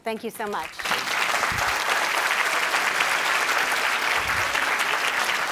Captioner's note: audience applauding